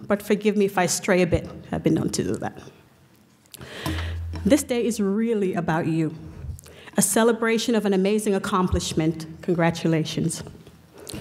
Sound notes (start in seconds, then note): none